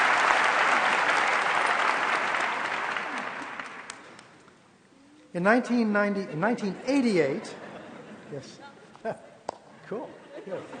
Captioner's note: applause